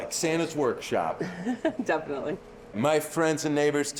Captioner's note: laughing